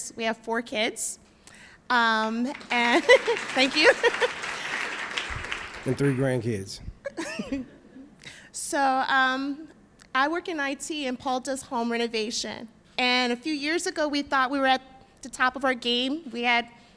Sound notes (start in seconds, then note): 2.4 applause